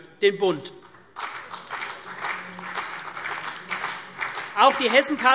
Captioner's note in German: Beifall CDU und BÜNDNIS 90/DIE GRÜNEN